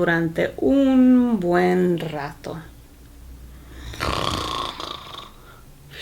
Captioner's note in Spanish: ronquidos